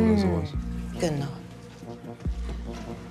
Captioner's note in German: sarkastisch; Spannungsvolle Musik